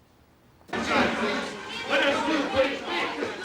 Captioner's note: clamoring